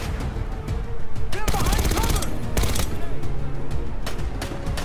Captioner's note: menacing music; gunfire banging; menacing music; gunfire popping